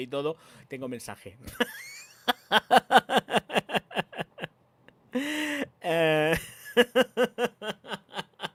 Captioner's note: laughs